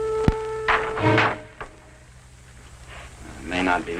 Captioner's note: door popping